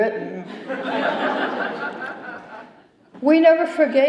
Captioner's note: laughter